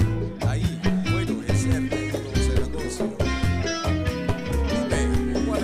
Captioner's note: speaking foreign language